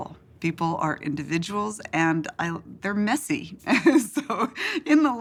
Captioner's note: laughs